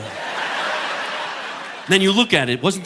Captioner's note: audience laughing